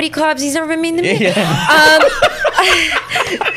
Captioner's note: laughter